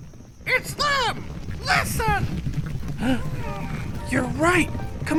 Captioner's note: 蹄声